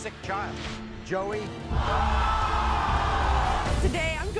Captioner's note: audience cheers